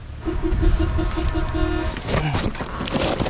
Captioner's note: truck honks